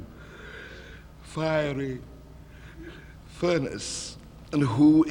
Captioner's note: yawns